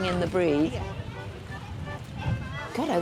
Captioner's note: wind noise